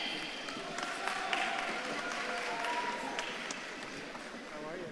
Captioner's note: audience claps and cheers